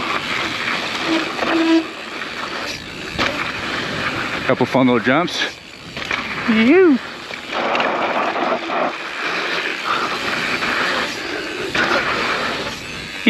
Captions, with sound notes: (bike wheel skirts) Couple fun little jumps. (biker gasps)